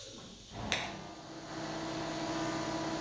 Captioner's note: hissing, whirring